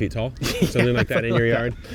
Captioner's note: laughs